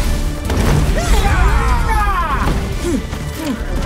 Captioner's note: yelling battle cries